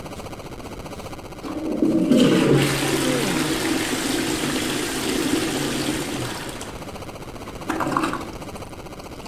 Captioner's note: toilet flush